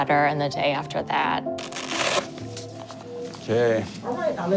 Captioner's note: velcro tears